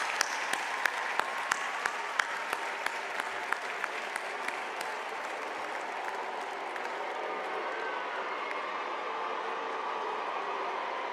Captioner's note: applause